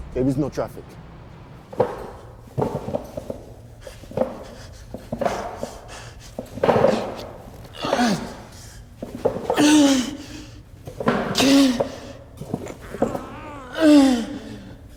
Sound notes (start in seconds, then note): 1.6 chair thudding; 1.9 governor panting; 7.7 governor grunting